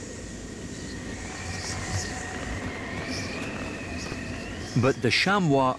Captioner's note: wind howls